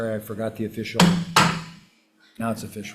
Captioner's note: gavel pounding